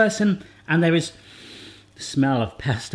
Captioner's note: sniffs